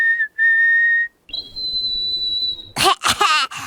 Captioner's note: high-pitch whistling; chirping; coughing